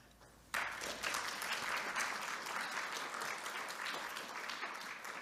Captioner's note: applause